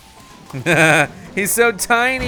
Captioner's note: laughing